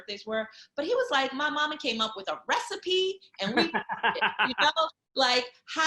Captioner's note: laughing